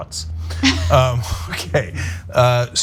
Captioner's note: laugh